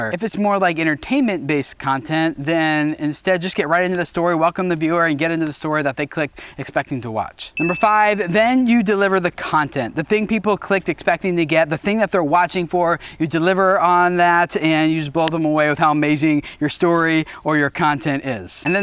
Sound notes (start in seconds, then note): 7.5 dinging